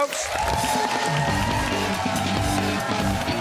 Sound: cheers and applause

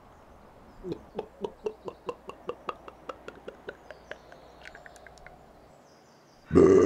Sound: glug glug glug glug; belch

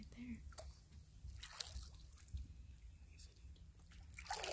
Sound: water splashes

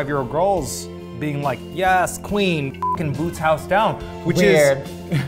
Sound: beep

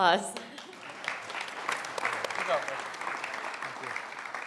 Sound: applause

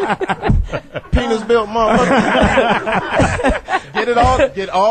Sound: all laugh

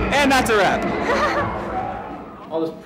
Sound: laughs

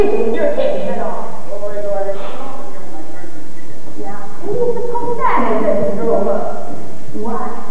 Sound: background chatter

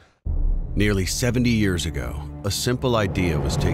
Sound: voiceover

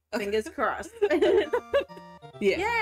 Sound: both laugh

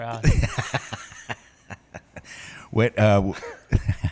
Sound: laughing

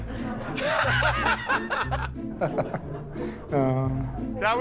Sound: light laughter; laughter

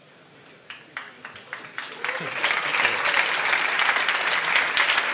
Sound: applause

